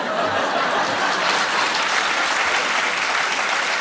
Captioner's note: applause